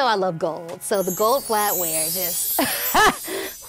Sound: laughs

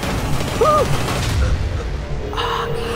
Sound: shouting

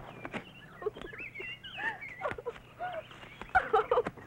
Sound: laughing

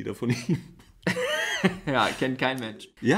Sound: laughs

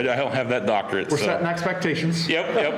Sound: laughter

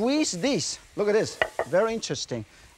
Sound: plate thuds softly

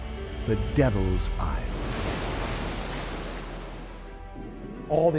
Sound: wave crashes

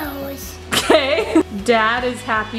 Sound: laughs

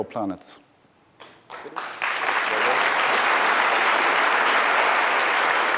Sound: applause

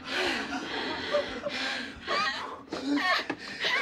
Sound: Sharon gasps for breath

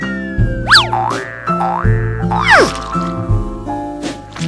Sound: boinging

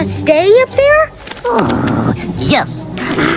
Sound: sighs

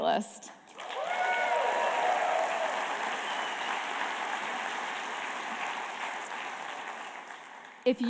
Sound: applause

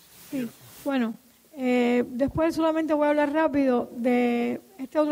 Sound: speaking in Spanish

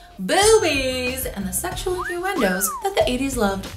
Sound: bell chiming; person whistling

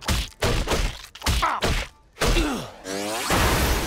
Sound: grunting

